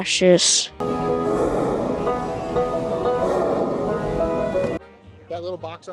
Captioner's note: Steamboat chugging and banjo playing